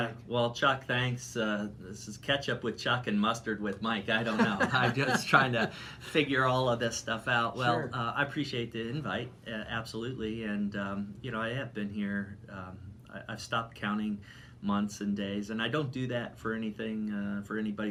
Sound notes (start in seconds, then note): 4.2 laughing